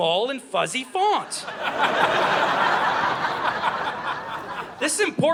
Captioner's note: audience laughing